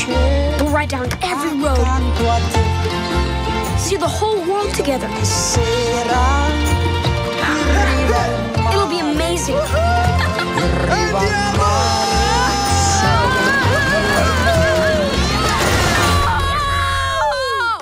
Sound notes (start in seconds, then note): 10.1 laughing; 11.9 screams; 12.8 gasps; 15.9 screams